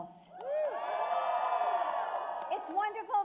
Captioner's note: applause